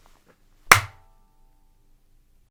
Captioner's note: clap